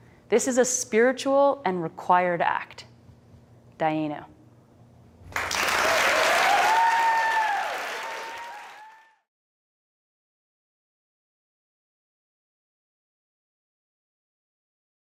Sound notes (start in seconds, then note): 3.9 speaks foreign language; 5.3 applause and cheering